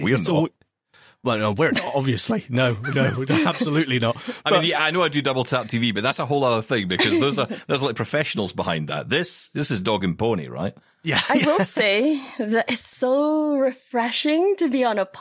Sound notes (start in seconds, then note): 11.1 laughs